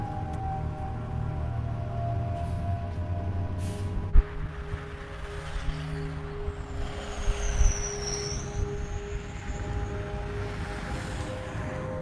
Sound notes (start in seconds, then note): 4.8 car engine roaring